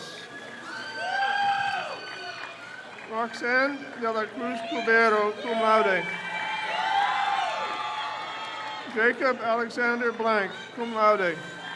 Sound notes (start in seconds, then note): 0.2 crowd cheers; 6.4 crowd cheers